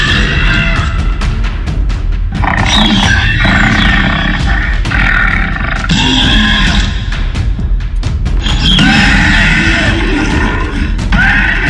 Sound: Carnotaurus growling

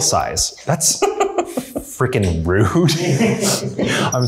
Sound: laughs

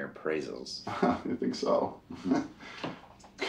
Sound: laughs

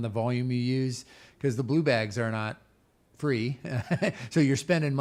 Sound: laughs

